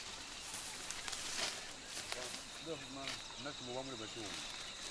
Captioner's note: muffled chatter